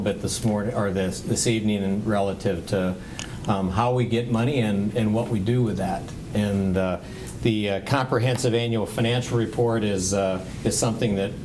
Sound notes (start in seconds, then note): none